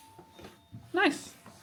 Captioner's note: doorbell ringing